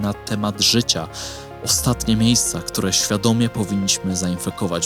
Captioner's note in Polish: parsknięcie